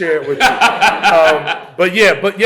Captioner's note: laughter